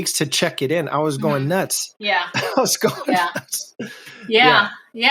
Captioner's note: laughs